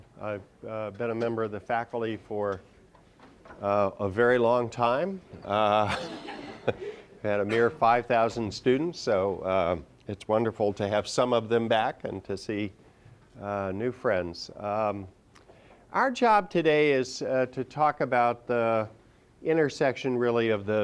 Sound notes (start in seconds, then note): 5.8 laughter